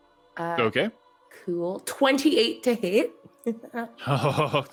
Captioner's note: honks